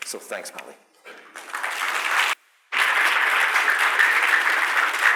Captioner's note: applause